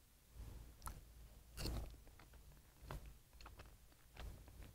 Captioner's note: chewing